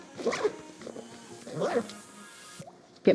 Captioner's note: grunts